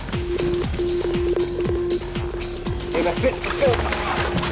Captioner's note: beeping